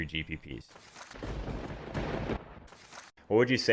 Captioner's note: lightning strike